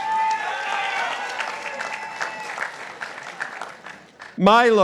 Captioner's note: participants applauding